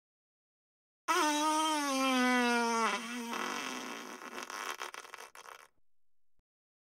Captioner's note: farts